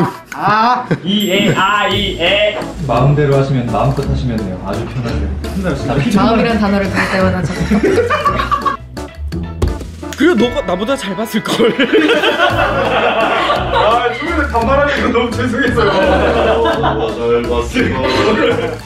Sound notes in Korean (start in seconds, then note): 11.5 웃음소리